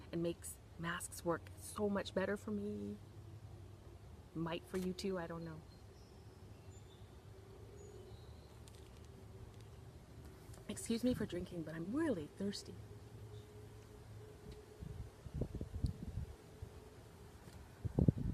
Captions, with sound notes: and makes masks work so much better for me? Might for you too I don't know. (birds chirping) Excuse me for drinking but I'm really thirsty. (wind blowing)